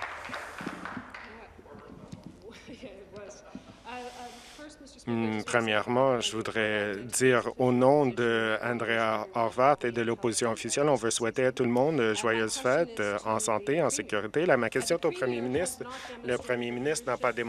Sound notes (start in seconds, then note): 1.8 applause